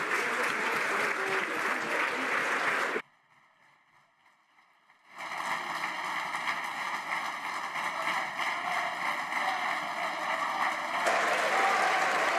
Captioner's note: some Applause